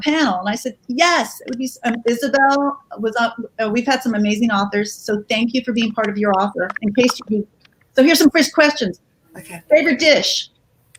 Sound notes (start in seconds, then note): none